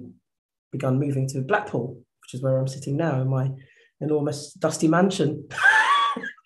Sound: laughs

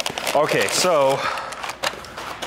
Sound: paper rustling

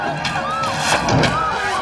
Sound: arrow striking

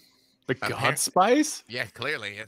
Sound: laughs

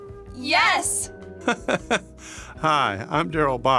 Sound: laughing

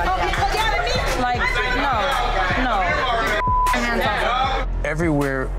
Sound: beeping

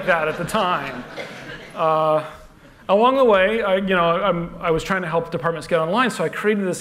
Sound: laughter

